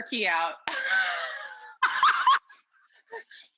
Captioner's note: laughing